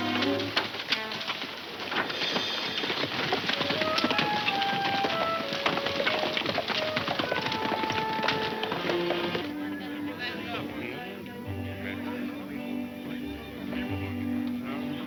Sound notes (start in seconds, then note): 7.8 group chattering; 7.8 light folksy music